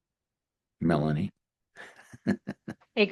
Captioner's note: laughs